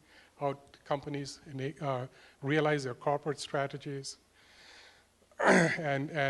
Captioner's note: cough